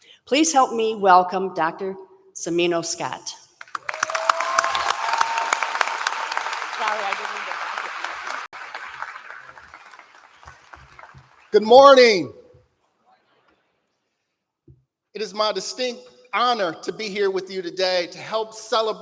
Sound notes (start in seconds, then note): 3.6 applause